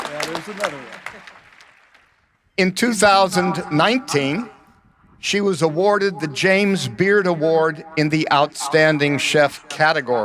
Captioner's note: applause